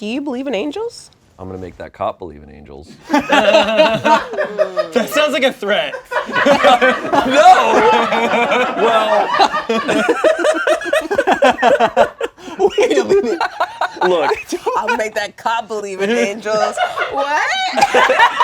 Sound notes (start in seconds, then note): 3.1 laughter; 6.9 laughter; 9.9 laughs